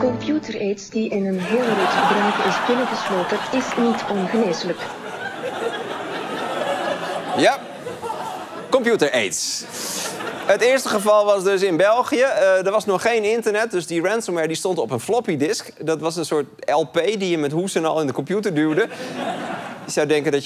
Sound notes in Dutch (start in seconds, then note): 6.5 luid gelach